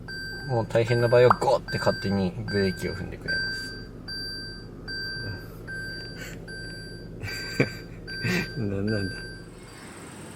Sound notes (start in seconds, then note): 8.2 laughs